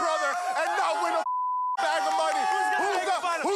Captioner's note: beep